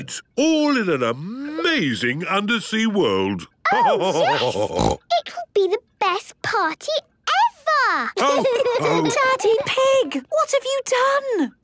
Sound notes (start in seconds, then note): 3.4 laughter and snorting; 8.2 laughter